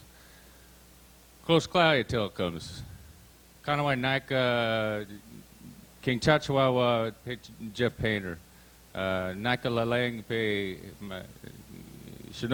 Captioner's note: Speaking Clatsop language